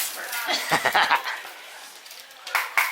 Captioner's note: laughter